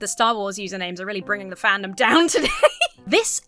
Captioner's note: laughs